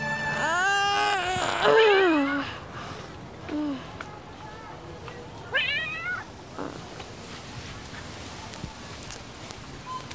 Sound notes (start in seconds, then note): 0.2 Poknat groaning; 5.5 cat meows